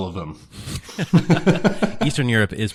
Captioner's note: laughing